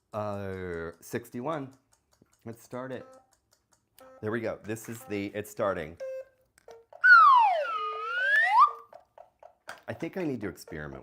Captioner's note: slide whistle sound effect